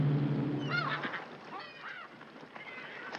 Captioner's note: seagulls calling